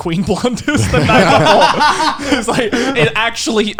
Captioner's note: laughing